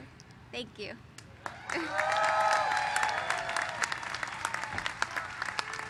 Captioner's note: cheers and applause